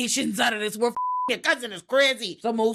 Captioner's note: beep